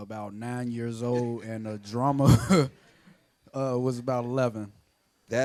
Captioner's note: laughs